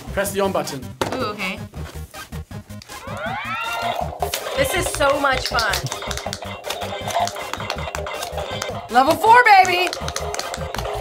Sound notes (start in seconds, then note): 2.8 game chimes